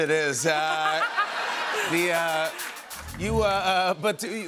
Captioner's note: laughter